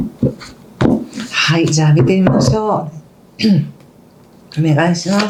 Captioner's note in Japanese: 咳払い